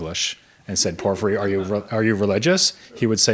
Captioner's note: audience members laughs